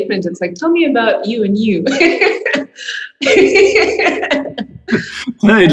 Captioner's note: laughing